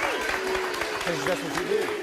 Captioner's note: applause